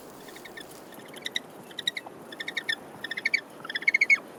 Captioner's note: penguin chirping